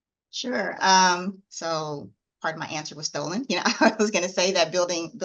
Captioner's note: laughs